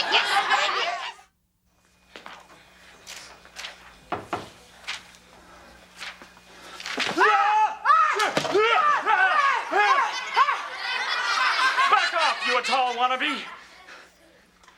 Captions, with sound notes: (both yelling) (audience laughs) - Back off, you Atoll wannabe.